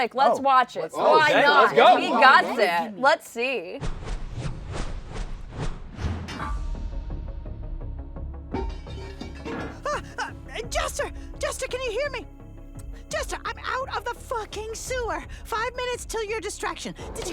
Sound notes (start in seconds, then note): 4.0 whooshing; 6.8 suspenseful music; 10.3 yelps